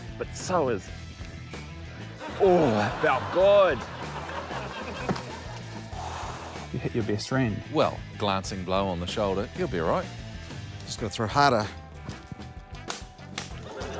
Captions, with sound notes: but so is... Ooh, that felt good! - (EXHALES) - You hit your best friend. - Well, glancing blow on the shoulder. He'll be all right. - Just gotta throw harder. - (LAUGHTER)